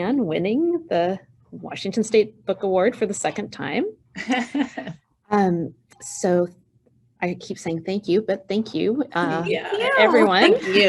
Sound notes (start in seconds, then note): 4.2 chuckling